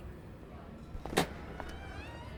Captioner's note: door opens